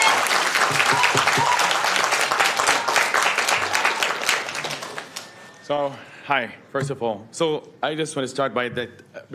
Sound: applauding

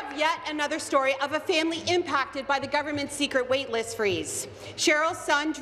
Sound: applause

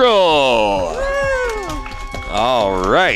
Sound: cheering

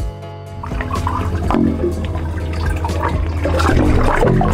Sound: water sloshing

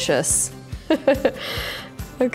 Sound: laughs

